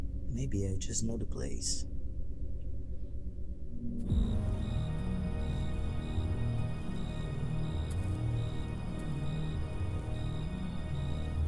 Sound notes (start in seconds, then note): 4.1 cicadas chirping; 4.1 soft tense orchestral music